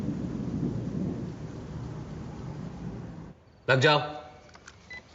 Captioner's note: thunder rumbling; men speaking and shouting foreign language